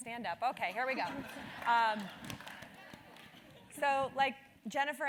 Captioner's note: laugh